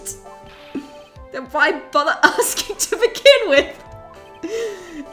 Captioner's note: laughing